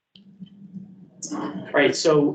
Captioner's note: speaks faintly